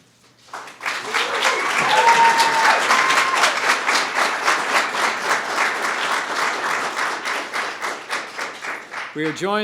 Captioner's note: applause